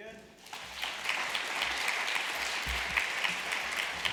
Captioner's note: applause